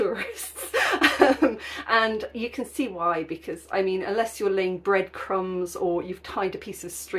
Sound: laughing

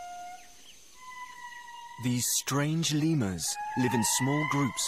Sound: lemurs howling

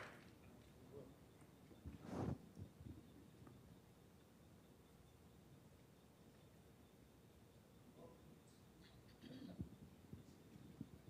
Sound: applause

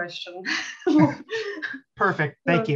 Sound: laughing

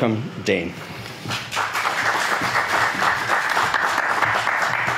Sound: audience applauds

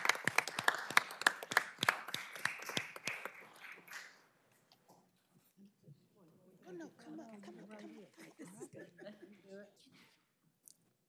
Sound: applause

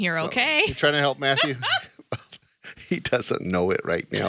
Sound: laughs

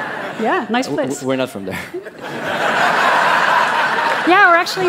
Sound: laughter

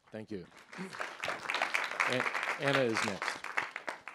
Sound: applause

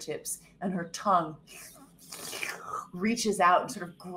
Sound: slurping

